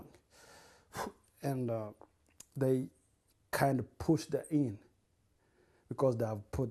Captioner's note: sighs